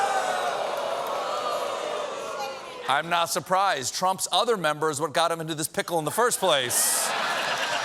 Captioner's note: audience reacts